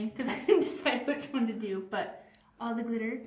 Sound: chuckles

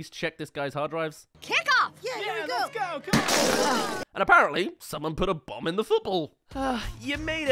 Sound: Kickoff! *Explodes

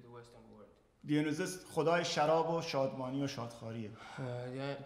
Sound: speaking in farsi

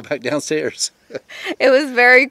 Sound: chuckling

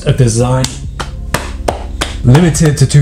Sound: clapping

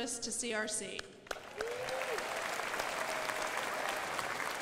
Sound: crowd applauding

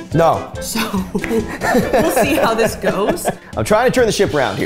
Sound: laughing

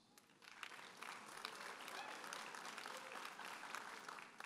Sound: audience applauding

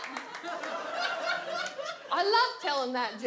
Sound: audience laughs

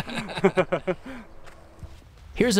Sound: both laugh

